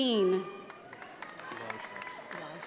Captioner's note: audience applauding